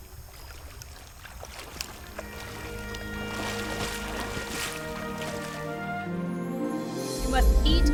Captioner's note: splashing water